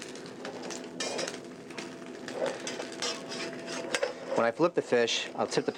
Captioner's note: pan searing